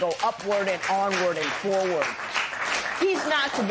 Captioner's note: applause